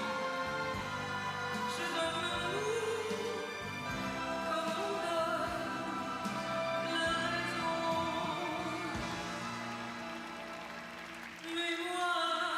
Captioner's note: applause